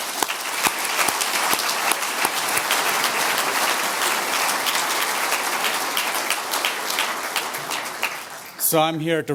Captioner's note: audience applause